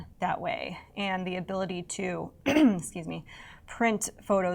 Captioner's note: clearing throat